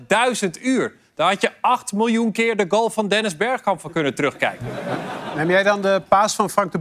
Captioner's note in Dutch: gelach